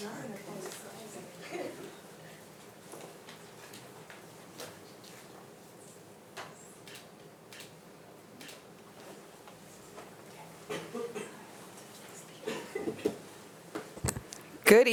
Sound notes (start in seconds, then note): 1.4 chuckling; 7.5 camera shutter clicking; 11.3 speaking faintly